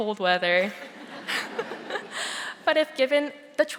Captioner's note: audience laughing softly